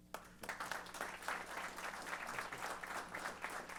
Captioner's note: applause